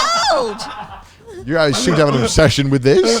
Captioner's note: everyone laughing